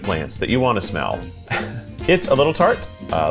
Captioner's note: chuckles